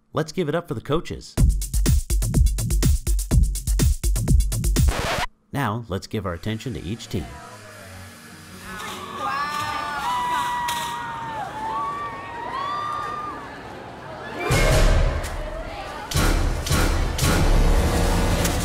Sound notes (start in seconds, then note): 1.4 upbeat music; 4.6 record scratch